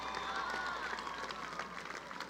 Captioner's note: applause